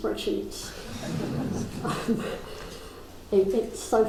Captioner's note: crowd laughs